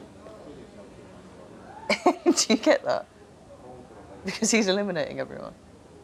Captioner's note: giggles